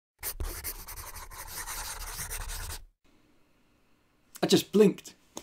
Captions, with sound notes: [scribbling] I just blinked!